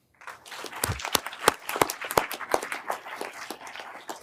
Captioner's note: everyone applauding